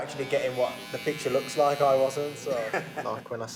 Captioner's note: laughs